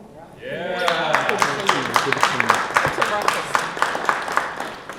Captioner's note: crowd applauding